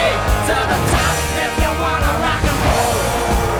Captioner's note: crowd yelling and cheering